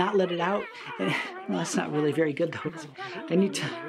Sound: critters yelling and mumbling

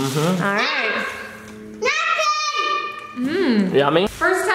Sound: yells

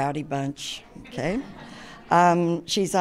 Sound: audience laughs

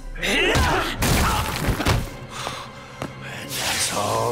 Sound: crash

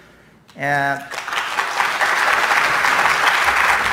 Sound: applause

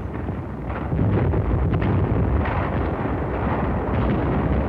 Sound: explosions

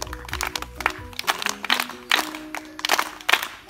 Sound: clapping

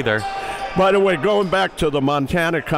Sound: cheering

